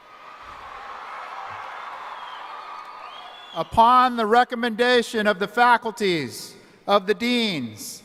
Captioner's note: cheering and applause